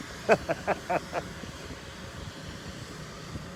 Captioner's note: laughter